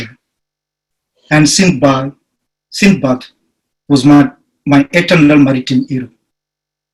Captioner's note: speaks in foreign language